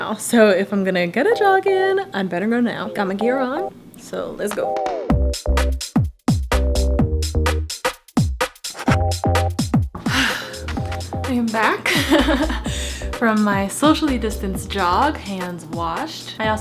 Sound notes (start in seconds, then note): 5.4 upbeat music; 11.8 laughs